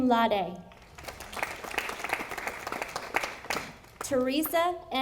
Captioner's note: audience applauding